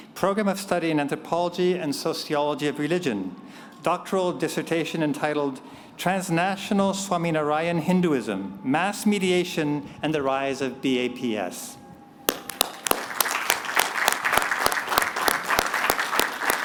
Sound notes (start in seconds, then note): 12.3 applause